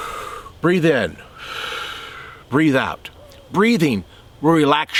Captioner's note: exhales; inhales